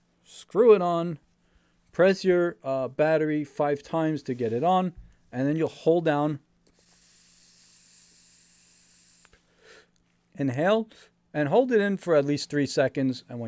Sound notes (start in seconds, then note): 7.5 inhales